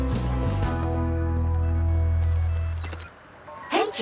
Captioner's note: ring